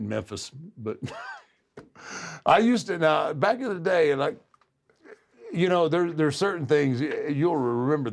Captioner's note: laugh